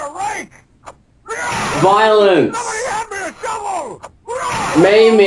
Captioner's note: bludgeoning; another bludgeoning